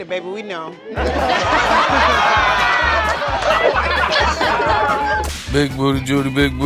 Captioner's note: laughter